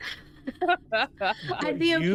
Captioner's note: laughter